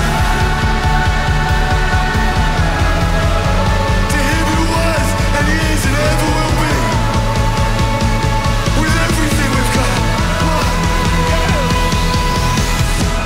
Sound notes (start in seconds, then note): 0.3 crowd; 8.3 crowd